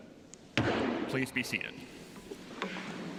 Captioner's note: sounding gavel